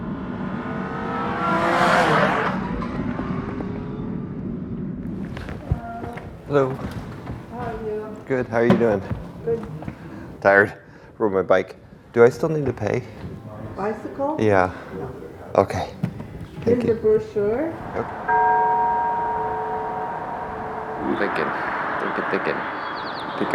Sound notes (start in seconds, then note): 0.0 hot rod passing; 18.2 bell